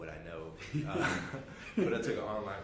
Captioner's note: laughing